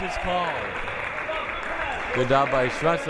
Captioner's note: clapping